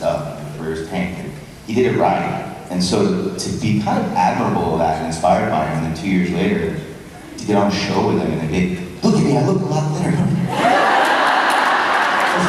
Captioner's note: crowd laughs